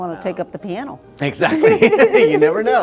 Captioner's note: both laughing